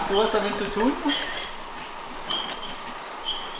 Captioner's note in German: Quietschen